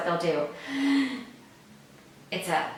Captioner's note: high shallow inhale